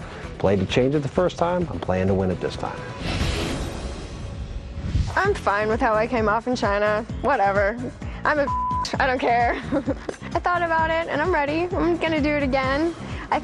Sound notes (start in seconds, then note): 9.1 laughs